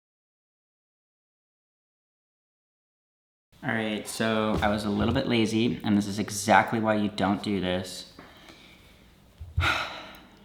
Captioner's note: exhales